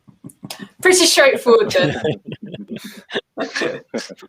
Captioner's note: laughing